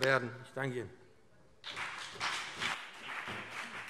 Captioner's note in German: Beifall BÜNDNIS 90/DIE GRÜNEN und CDU